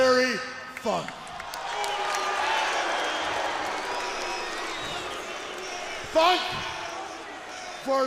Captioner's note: crowd chatter